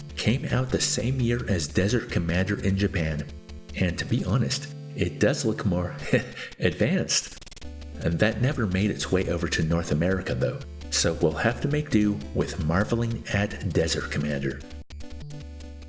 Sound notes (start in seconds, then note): 6.1 heh